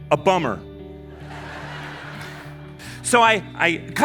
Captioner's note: audience laughing